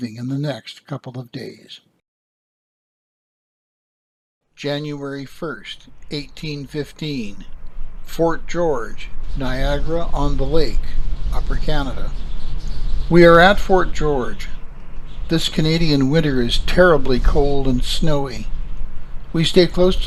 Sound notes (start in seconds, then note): 13.3 winter wind